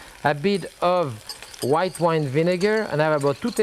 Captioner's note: whisk clinks